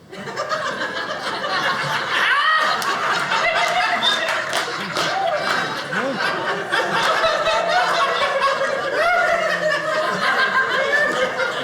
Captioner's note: audience laughing